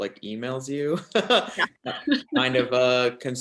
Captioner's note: laughs